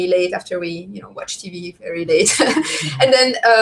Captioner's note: laughs